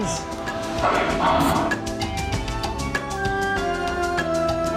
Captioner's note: dinosaur grunting